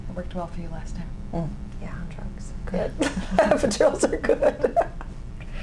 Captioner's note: laughs